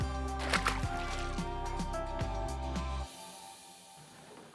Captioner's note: water splashing